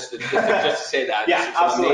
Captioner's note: laughing